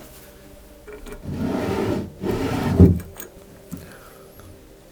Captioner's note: opening and closing drawers